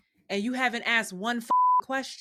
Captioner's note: beep